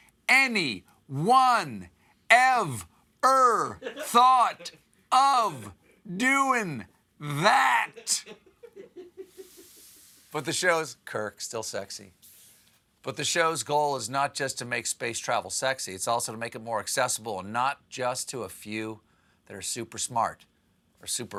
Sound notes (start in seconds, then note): 7.9 laughter